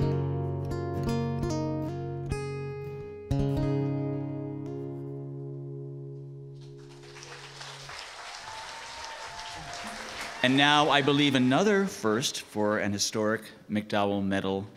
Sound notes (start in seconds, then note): 0.0 guitar plays; 6.5 applause